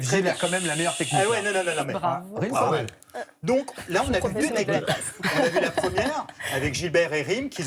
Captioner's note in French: rires